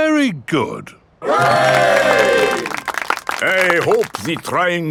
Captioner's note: clapping